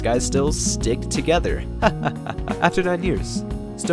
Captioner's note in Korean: 하하하하